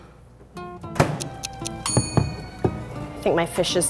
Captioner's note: ticking